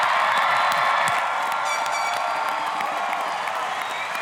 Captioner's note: applause, cheering; air horn honking loudly; applause, cheering